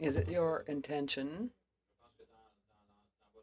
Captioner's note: speaking in French